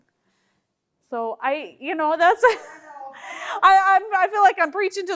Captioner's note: laughing